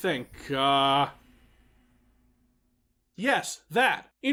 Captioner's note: dead silence